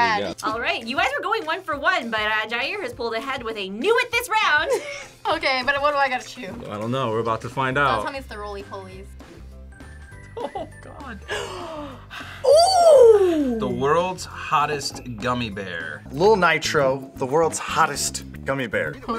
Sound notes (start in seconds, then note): 10.3 laughs; 11.2 gasps